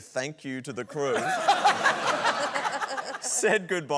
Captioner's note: laughter